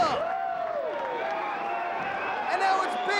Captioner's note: crowd cheering